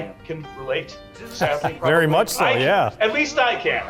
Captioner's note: laughs